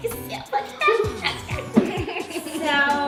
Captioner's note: silly vocalizing